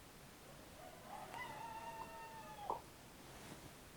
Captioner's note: cockerel crows in the background